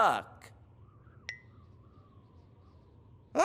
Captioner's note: bloop